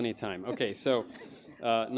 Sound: audience laughing

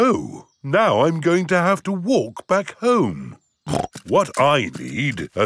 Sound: snorts

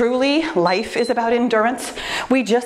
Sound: timer beeps

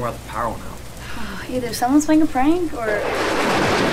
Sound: sighs; thunder

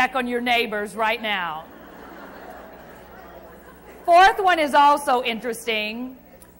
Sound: crowd laughs

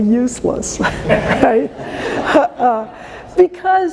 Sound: laughter

